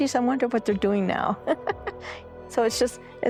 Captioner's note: laughing